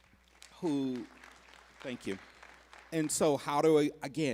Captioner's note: applause